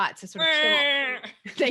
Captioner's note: quacks